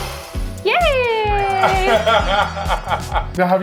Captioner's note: laughing